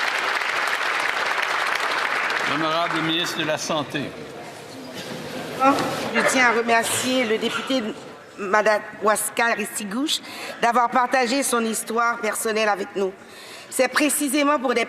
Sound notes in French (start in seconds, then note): 2.6 applaudissements